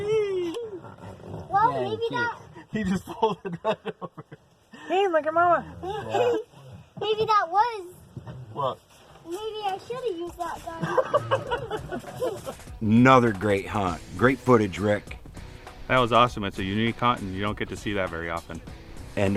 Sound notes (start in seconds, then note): 10.7 men laughing